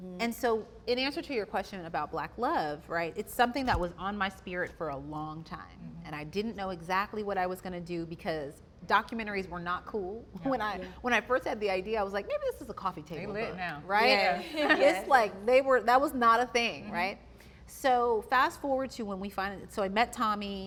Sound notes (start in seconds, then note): none